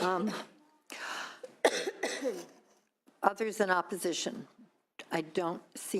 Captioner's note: coughing